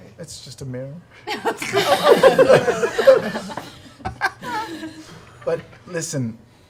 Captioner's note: laughter